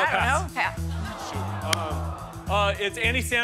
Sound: audience groans

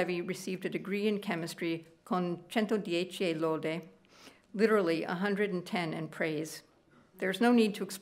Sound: speaking italian

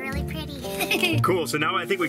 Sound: laughs

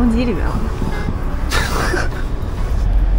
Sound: laughs

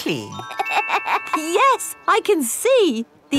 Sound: laughs

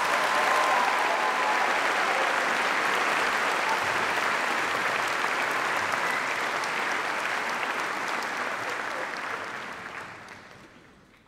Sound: applause

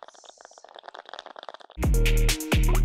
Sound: bong rip continues; trap music

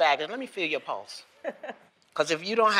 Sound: laughs

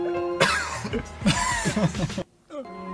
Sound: constipation sounds; laugh

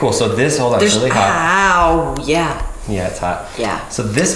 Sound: hammer pounding

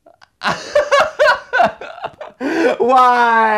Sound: laughing

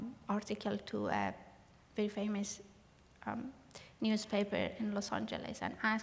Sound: none

